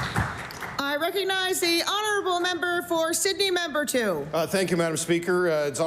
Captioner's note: applause